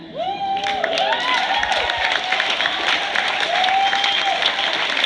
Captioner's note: cheers, applause